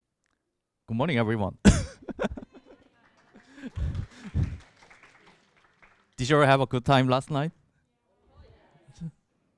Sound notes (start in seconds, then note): 4.8 laughter